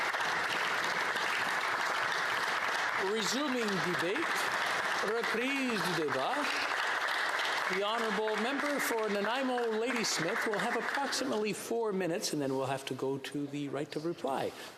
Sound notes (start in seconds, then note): 7.8 applause